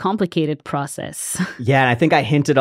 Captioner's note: laughs